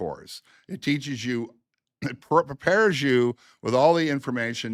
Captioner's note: clears throat